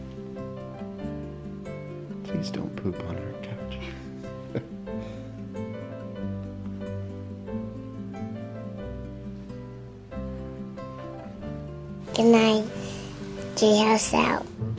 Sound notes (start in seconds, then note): 4.4 person laughing